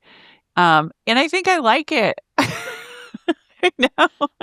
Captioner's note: laughs